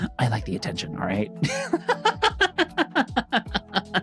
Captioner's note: laughs